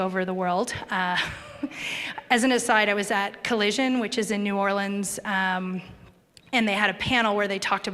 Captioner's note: chuckle